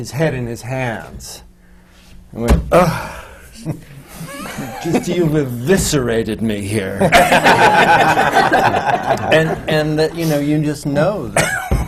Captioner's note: laughter